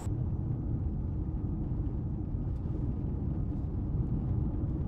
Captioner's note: engine rumbling